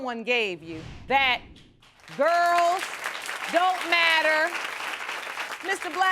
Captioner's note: applause